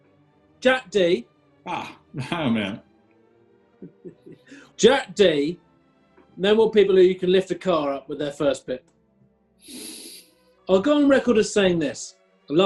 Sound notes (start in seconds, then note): 3.8 chuckling; 9.7 sniggering